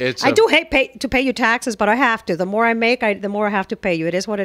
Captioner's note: Hablando ingl\s